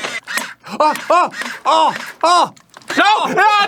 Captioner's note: gun going pew pew